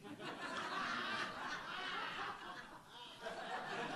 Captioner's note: audience laughs